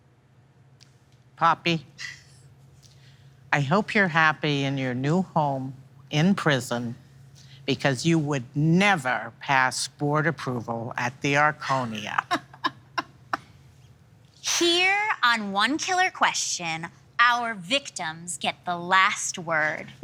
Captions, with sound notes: Poppy, I hope you're happy in your new home in prison because you would never pass board approval -at The Arconia. -(laughing) Here on "One Killer Question," our victims get the last word.